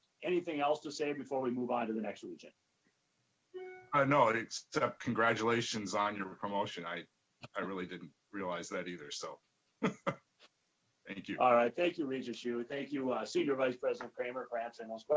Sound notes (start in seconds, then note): 3.9 murmurs